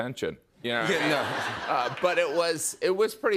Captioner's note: laughter